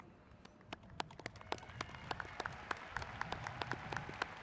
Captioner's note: applauding